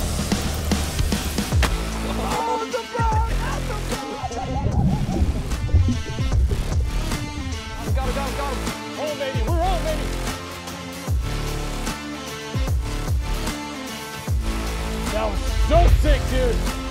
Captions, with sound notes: (upbeat music) (men celebrating) - I've gotta go, go. Hold, baby. Hold on, baby. - That was so sick, dude.